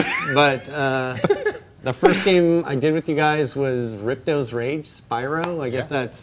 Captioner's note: laughter